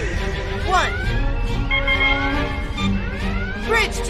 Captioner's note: beeps